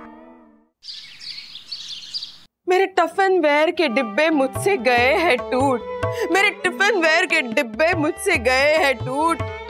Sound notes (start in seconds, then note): 0.8 birds chirping